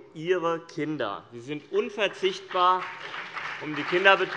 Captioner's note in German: Beifall CDU und BÜNDNIS 90/DIE GRÜNEN